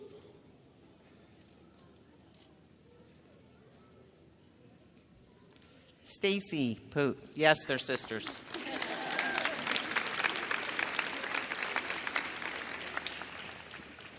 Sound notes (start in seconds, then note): 1.6 camera clicks; 8.1 audience applauds; 8.5 audience laughs